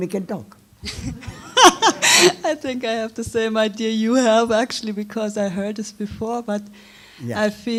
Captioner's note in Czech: směje se